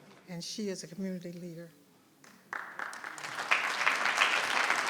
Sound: audience clapping

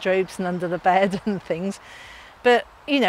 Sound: chuckles

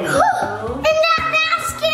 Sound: gasps

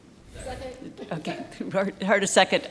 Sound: laughs

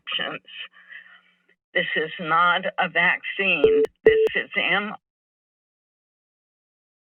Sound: beeping

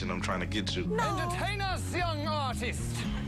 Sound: laughing

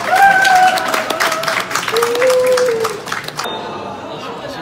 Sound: applause

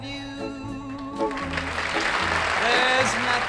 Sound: audience applauding

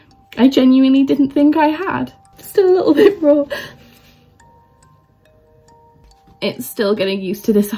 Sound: sob

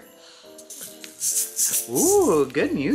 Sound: toy rattles

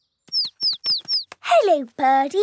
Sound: chirping

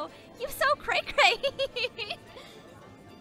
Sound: laughs

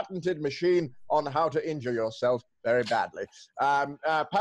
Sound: none

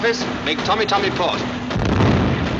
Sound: explosion

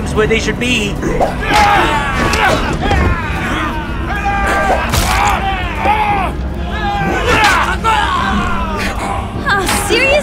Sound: battle sounds

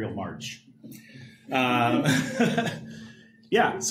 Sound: laughter

